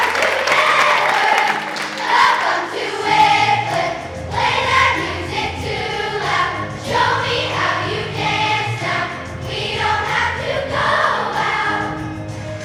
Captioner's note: screaming offstage, laughter